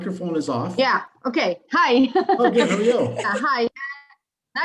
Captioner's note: laughs